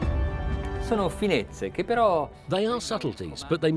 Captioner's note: speaking in a foreign language